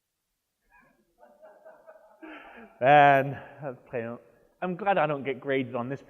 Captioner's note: laughs; audience member laughs